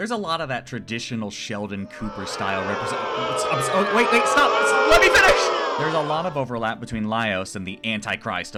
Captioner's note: booing yells